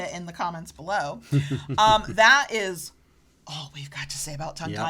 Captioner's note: chuckles